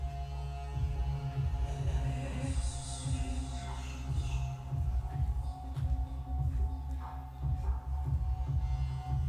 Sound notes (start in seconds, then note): 1.9 person speaking softly in foreign language